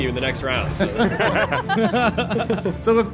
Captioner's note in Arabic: ضحكة جماعية